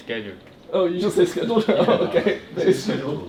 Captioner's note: laughs